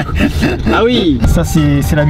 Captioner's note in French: rires